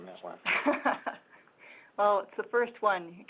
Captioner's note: chuckling